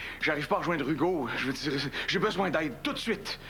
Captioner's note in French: none